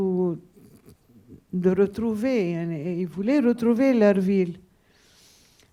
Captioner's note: speaking a foreign language